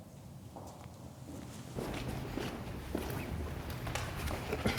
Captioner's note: feet clomping